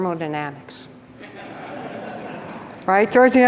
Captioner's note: audience laughs